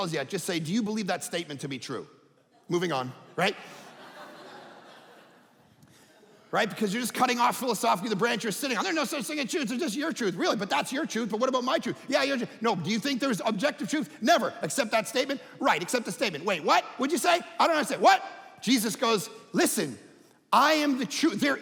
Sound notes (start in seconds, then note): 3.2 audience laughing